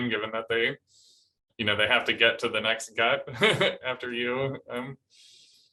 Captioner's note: laughter